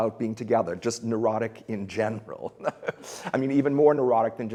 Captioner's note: laughs